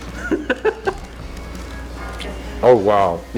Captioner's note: laughs